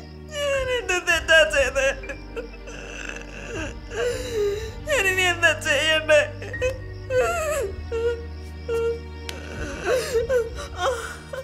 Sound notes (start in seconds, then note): 8.0 sobs